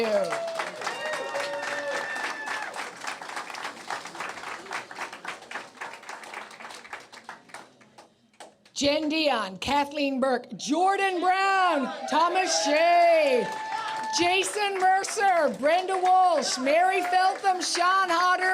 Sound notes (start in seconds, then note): 2.2 applause